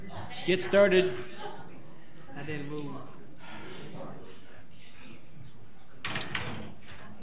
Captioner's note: crowd murmuring